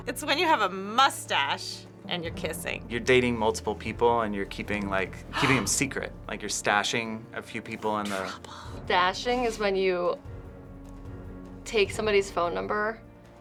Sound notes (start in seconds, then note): 8.2 whispers